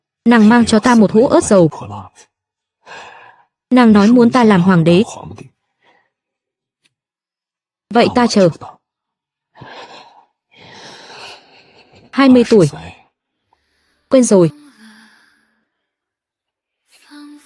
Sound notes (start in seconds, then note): 10.6 khịt mũi